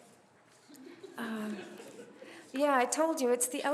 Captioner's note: chuckles